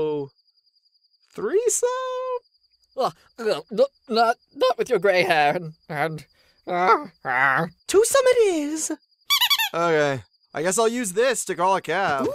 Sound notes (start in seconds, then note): 3.5 stammering; 9.2 squeaky toy sound